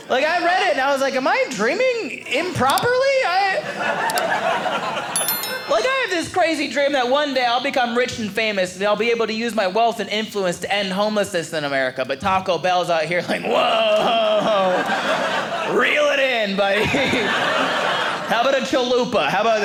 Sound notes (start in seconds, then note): 3.4 audience laughing; 13.2 audience laughing